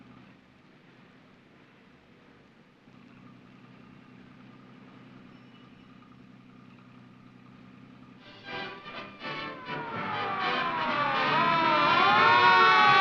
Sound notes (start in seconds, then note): 10.5 car sirens